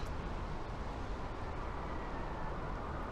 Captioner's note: wind howls